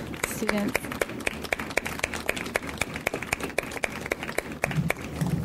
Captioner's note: audience applauds